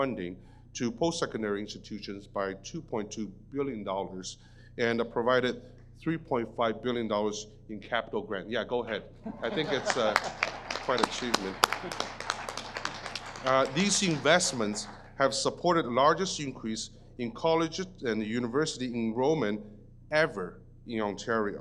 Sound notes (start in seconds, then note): 11.4 audience applause